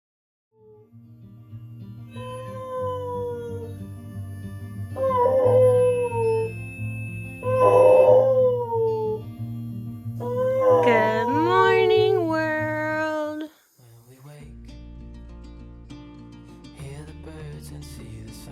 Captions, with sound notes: (dog howling) Goooood morning world!